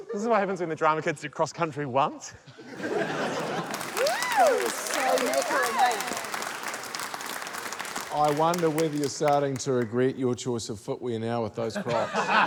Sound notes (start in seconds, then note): 2.8 cheering, applause